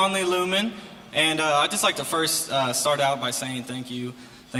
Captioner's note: crowd noise